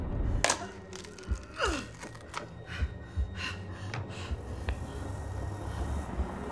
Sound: boards cracking; Beatrice grunting

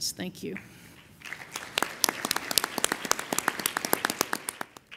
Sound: audience applauding

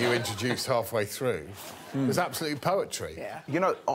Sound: all laughing

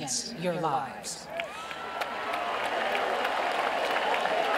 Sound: cheering

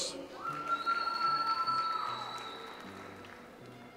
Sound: audience applauds

